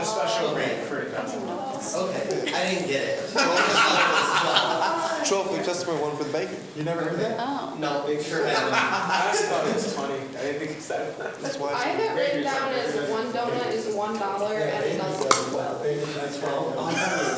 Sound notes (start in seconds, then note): 3.2 laughs; 8.5 laughs; 16.8 group laughs